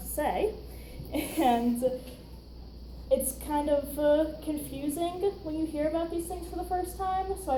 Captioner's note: chuckles